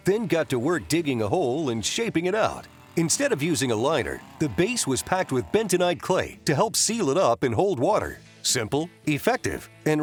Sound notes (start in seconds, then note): 2.9 motor roars